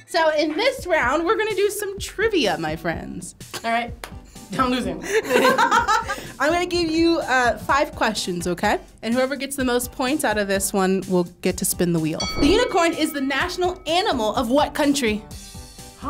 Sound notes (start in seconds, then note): 5.0 laughs